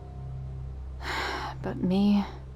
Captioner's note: sigh